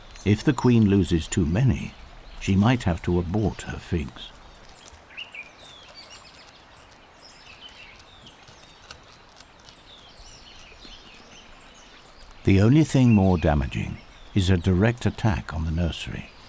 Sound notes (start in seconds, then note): 4.3 birds chirping; 16.2 birds chirping, slurping